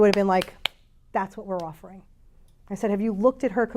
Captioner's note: claps